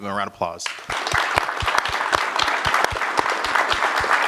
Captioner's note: applause